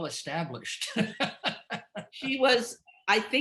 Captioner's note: laughing